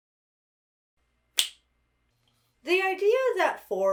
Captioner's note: snaps fingers